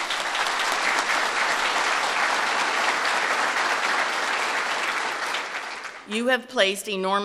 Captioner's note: applause